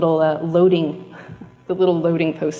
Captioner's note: chuckles